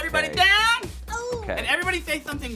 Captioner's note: moans